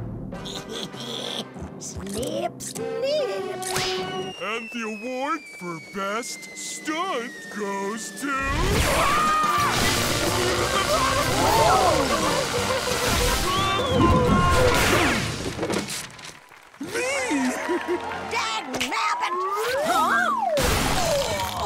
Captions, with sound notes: [laughing] Snip. Snip. And the award for best stunt goes to... [screaming] Ooh. [screaming] Me. [giggling] Dagnabbit! Huh? [groaning]